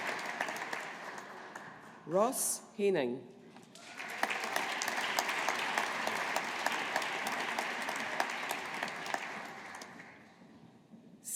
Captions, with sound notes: Ross Haining. (AUDIENCE APPLAUDING)